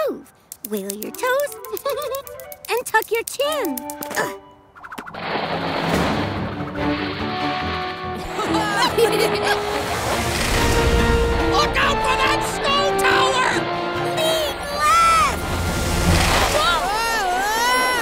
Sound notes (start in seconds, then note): 4.8 dramatic music; 4.8 sled sliding; 8.2 kids giggling